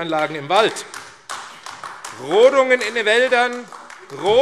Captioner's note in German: Beifall AfD